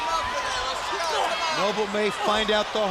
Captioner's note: crowd chatter